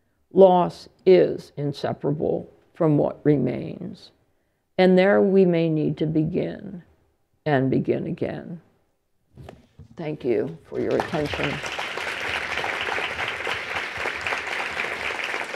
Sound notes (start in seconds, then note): 12.5 applause